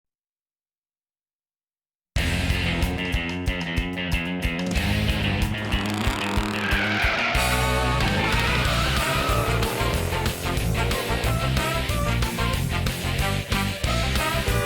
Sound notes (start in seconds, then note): 5.9 engine revving; 5.9 tires screeching; 14.4 car horns honking